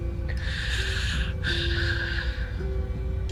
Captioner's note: sighs